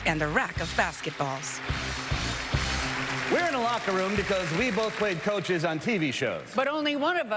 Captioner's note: applause